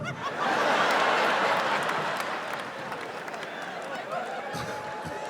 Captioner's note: audience laughs